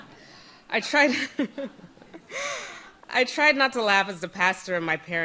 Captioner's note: audience laughs; laughing